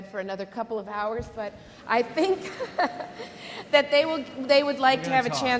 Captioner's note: laughs